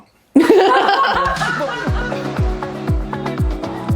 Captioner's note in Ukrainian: сміх